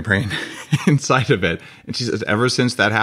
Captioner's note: laughing